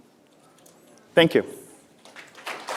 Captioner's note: applause